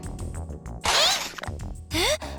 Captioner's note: effort grunt